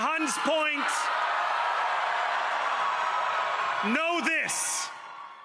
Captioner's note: cheering